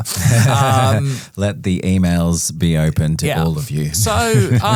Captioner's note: laughs